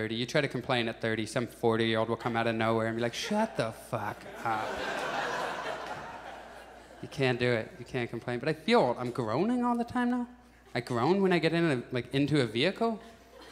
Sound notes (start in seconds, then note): 4.9 audience laughs; 13.3 audience laughs